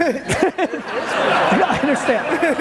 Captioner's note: audience laughing